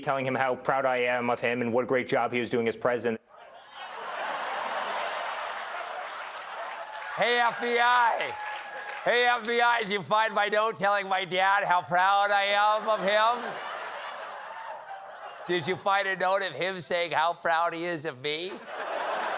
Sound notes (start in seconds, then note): 8.2 laughter; 18.4 laughter